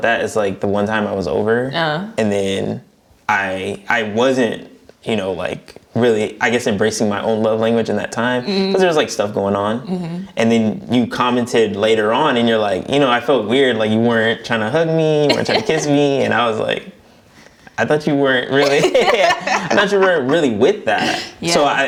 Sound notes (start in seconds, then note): 18.6 both laughing